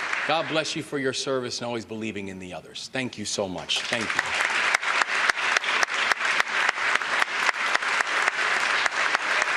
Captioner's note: applause